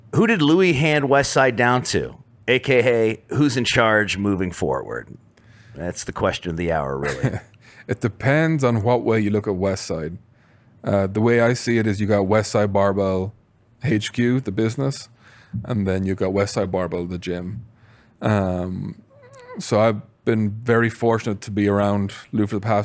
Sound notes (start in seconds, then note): 7.0 laughs